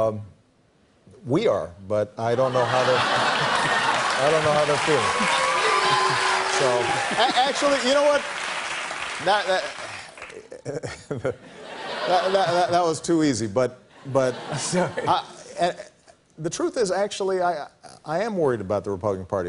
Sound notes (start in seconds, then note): 2.5 laughter; 5.5 cheers and applause; 8.5 chuckles